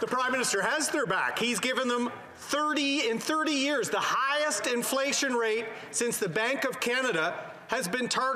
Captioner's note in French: voix de l'interprète